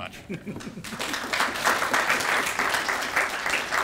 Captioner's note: applause